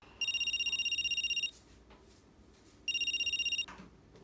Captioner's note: phone rings